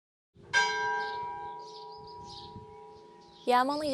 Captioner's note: bell chime